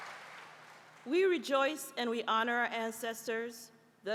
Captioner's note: applause